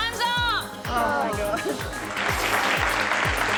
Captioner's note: all groan; applause